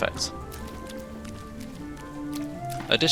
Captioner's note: splashing sounds